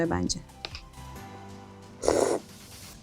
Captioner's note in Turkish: Hıçkırık